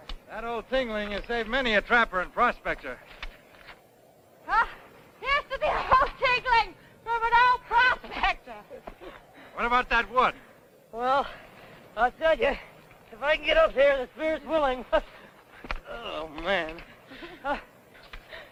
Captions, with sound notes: That old tingling has saved many a trapper and prospector. - Ah, here's to the old tingling from an old prospector! - What about that wood? - Well, I'll tell ya, if I can get up here and the spirit's willing... (chuckles) Oh, man.